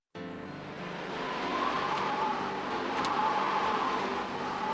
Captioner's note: wind blowing